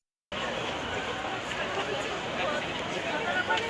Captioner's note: chattering